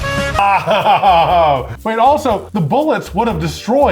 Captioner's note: laughs